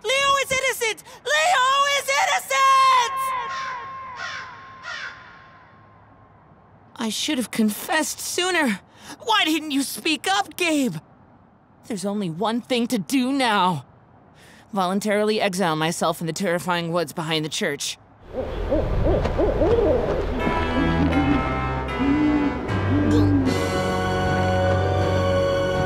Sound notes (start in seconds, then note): 3.4 birds cawing; 18.3 owl hooting; 20.0 menacing music